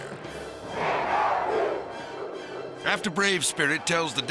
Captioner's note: crowd cheering